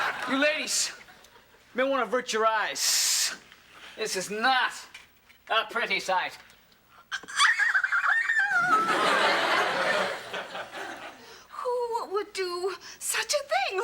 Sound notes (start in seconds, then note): 0.0 audience laughing; 7.2 screams